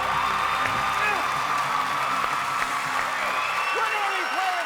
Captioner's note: cheers and applause